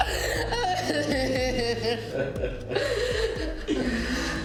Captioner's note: Ben laughing; Mia crying